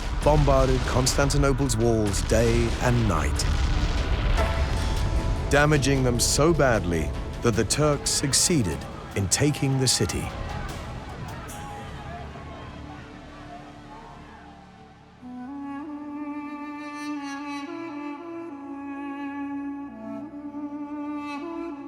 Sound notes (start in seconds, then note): 10.6 clamouring; 15.1 soft music